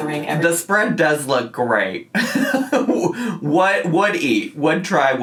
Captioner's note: laughs